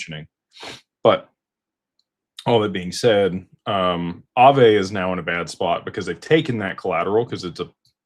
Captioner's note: snorts